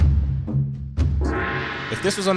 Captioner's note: ominous drum music; gong banging